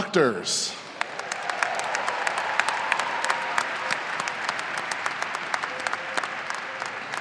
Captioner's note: audience applauding and cheering